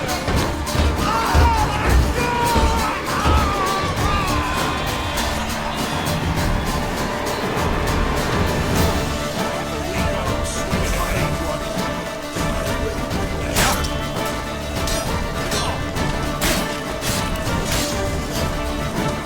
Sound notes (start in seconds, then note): 0.0 banging; 14.8 swords clanging